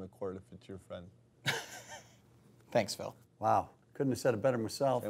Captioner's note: laughs